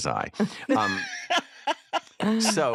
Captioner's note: laughter